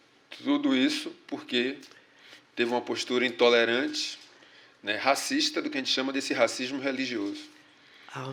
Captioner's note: speaking portuguese